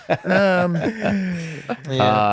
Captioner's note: laughs